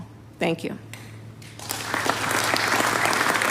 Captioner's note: applause